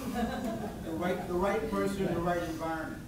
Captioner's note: laughs